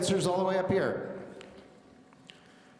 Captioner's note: none